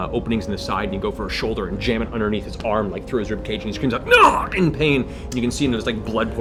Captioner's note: yelps